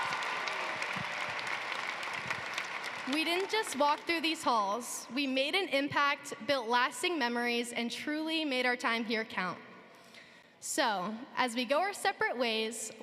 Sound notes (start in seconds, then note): 0.0 cheering and applause